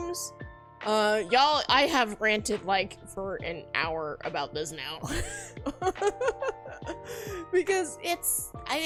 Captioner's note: laughs